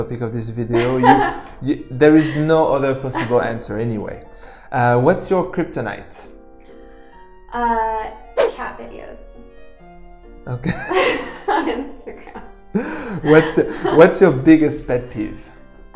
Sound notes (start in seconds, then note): 11.0 laughs